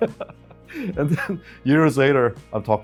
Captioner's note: laughing